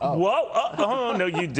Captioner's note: laughter